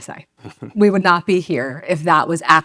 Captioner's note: laughs